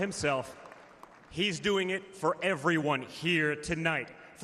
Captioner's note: applause